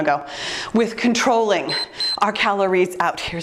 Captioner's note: timer beeps